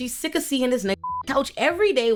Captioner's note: beep